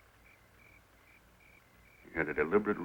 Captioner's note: crickets chirping